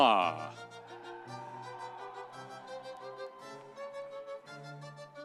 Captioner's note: audience cheering